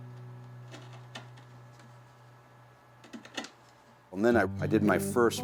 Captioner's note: wood scraping softly